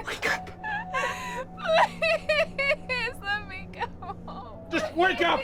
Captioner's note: crying